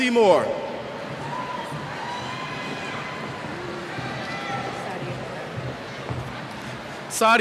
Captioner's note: cheers